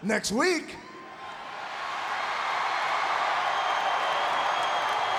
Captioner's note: audience cheering